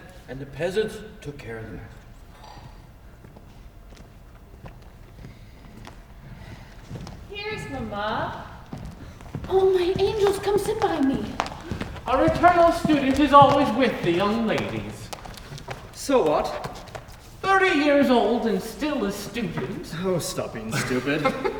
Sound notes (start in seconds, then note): 2.5 footsteps exiting; 8.6 footsteps approaching